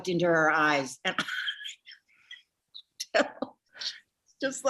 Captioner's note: Jennifer chuckling